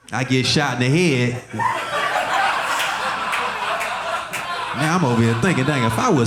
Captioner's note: audience laughing